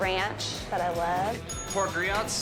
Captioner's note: bell rings